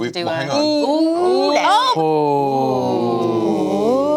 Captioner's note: gasping